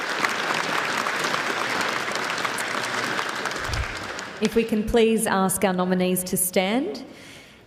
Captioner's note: applause